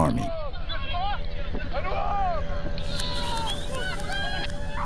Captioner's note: Arabic spoken audio